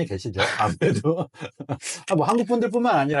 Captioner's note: laughs